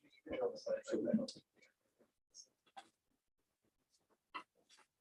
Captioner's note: indistinct conversation